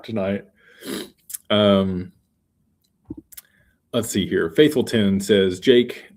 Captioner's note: snorts and clears throat